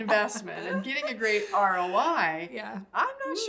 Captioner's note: laughs